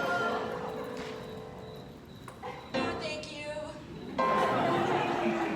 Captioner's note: laughter